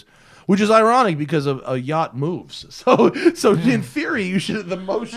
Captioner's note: laughter